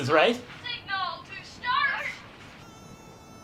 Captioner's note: child's voice; kazoo